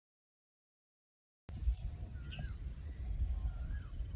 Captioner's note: insects drone